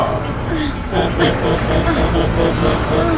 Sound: spellbinder laughs

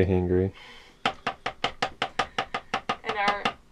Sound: tapping

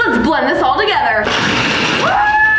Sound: blender whirring

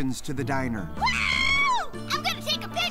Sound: yells

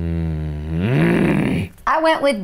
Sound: grunts

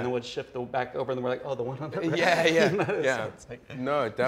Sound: laughs

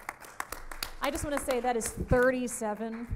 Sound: audience applauds

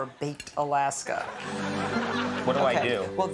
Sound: audience laughing

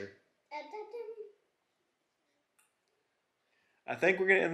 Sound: babbles

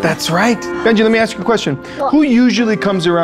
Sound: none

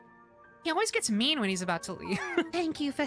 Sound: laughter

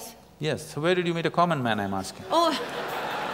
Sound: laughter

